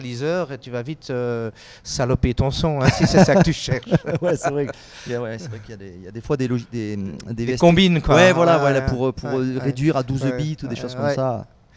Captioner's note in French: rires